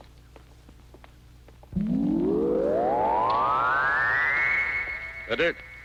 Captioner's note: radar pulsing